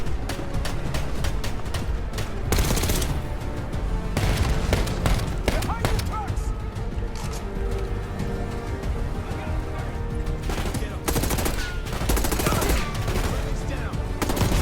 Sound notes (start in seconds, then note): 0.0 menacing music; 0.1 gunfire popping; 2.6 gunfire banging; 4.1 gunfire bangs; 4.2 vehicle blasts; 7.0 menacing music; 10.4 gunfire bangs; 11.5 gunfire banging